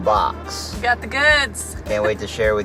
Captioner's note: chuckles